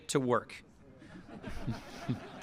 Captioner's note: laughter